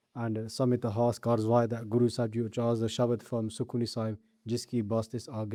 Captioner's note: recited